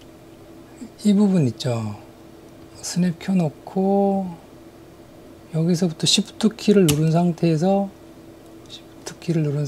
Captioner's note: Snap